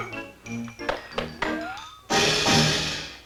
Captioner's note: whistling